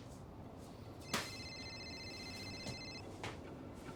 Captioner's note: mail smacks counter; phone ringing